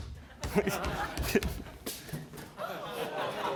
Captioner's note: laughter